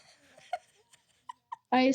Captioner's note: laughing